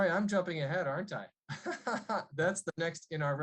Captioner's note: laughter